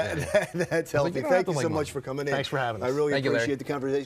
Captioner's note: laughs